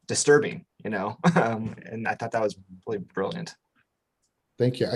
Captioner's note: chuckles